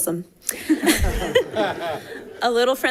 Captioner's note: laughter